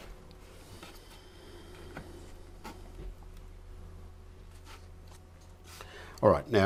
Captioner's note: silence